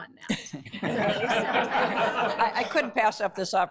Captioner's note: laughter